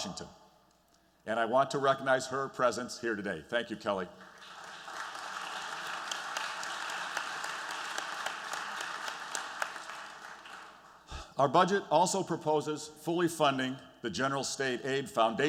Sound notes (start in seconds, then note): 4.1 applause